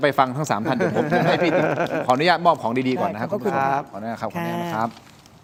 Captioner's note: laughs